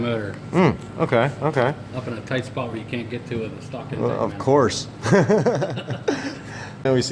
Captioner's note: laughing